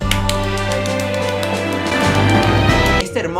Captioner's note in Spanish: aplausos mágicos pambisitos